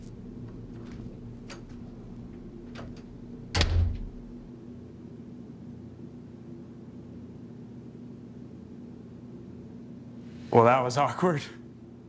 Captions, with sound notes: (door clicks) (door thuds) - Well, that was awkward.